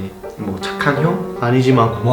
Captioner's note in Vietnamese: tiếng Anh; tiếng Hàn